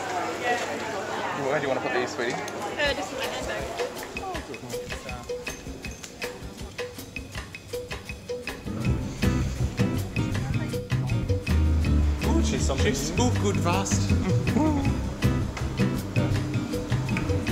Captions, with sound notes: - Where do you want to put these sweetie? - Oh just in my handbag. (upbeat music) - (speaking foreign language)